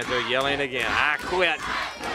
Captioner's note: crowd cheering